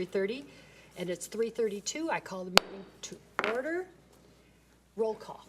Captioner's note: gavel bangs